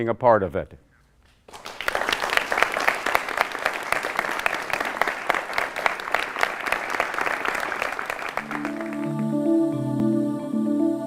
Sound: applause

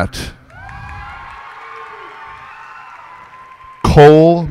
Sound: cheers and applause

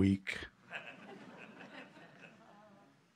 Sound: laughter

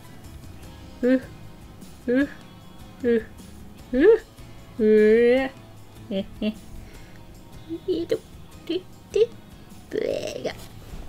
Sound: struggling 'oo' sounds with each stroke

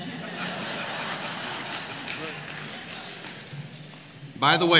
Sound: laughter

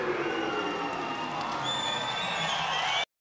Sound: audience cheers

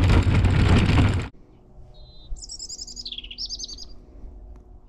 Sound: birds chirping

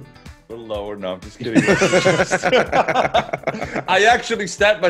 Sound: laugh

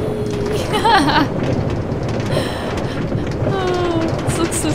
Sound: laughing

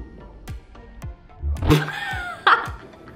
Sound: laughing

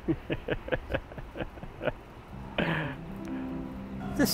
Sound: Terrell laughs; inspirational music

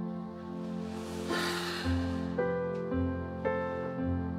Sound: sighs

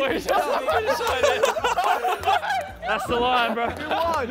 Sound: contestants laughing

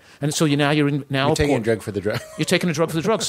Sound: laughs

